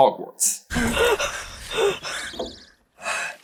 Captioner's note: heavy panting